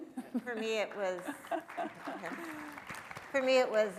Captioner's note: audience applauding; laughing